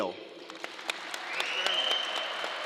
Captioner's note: crowd applause